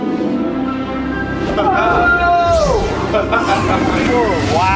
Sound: laughing

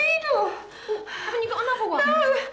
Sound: panicked breathing

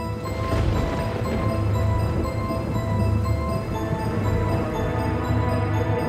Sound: spooky music; thunder booming

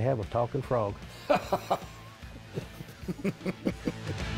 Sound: both laughing

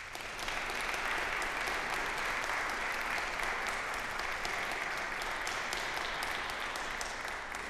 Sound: applause

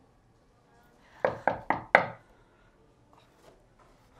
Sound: knocking

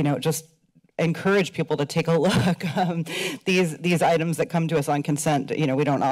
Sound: laughs

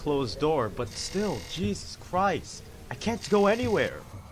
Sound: zombies groaning, thumping against glass

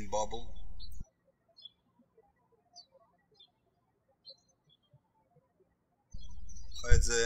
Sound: birds chirping

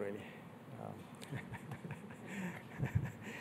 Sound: laughs

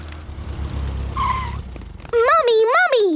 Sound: tires screeching

